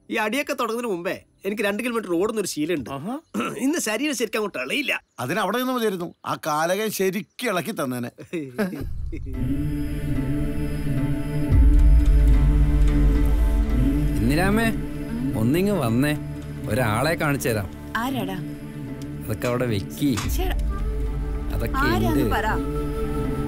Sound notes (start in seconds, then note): 8.2 laugh